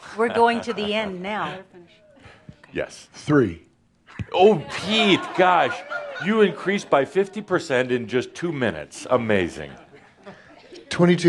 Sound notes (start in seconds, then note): 0.3 chuckles; 5.1 laughter